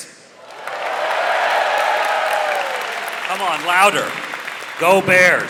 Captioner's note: audience applauding